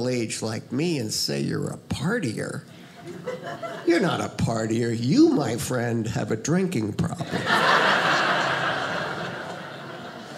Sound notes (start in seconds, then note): 7.2 audience laughing